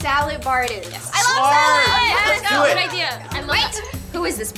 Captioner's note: all cheer in agreement